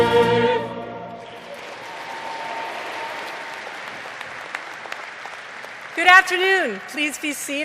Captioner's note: crowd clapping